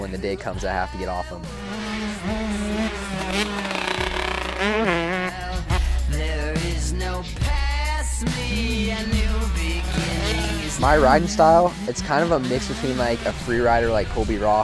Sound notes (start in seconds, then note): 3.7 engine roaring